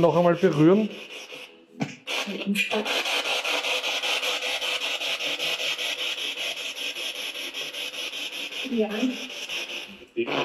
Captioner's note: radio noise from the spirit box